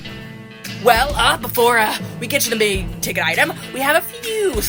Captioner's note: trying to recover, slightly nervous